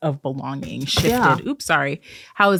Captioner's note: bump sound